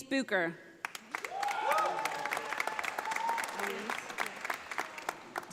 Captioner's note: audience applauding